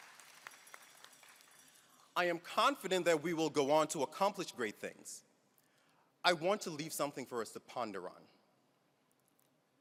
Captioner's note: applause